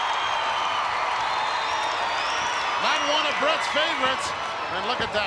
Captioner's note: applause